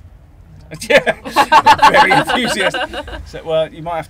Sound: laughter

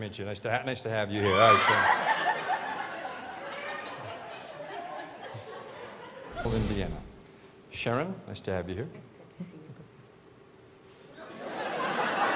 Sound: laughter

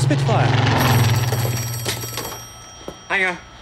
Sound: phone ringing

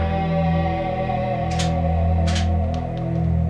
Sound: gunshot; shotgun reloaded

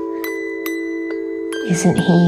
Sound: none

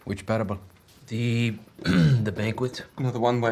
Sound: clearing throat

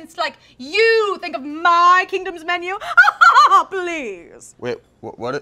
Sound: laughs

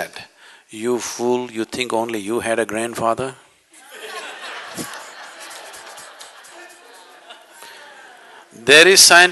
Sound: laughter

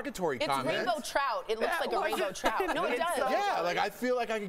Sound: laughter

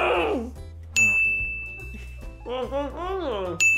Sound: ding

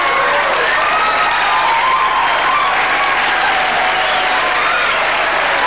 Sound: audience applauding; audience cheering

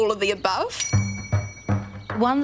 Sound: bell dings

